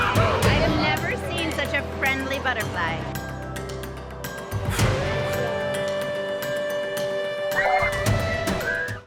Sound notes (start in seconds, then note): 4.9 upbeat music; 7.5 kids yelling